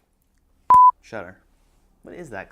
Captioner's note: beep